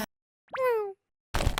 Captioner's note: cute sounds